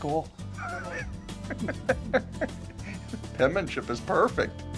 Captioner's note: laughs